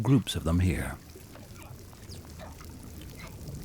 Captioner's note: whales calling